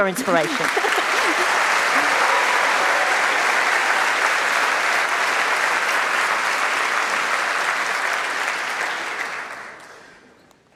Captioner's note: applause